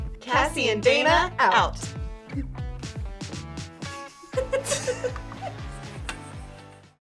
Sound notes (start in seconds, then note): 4.3 laughs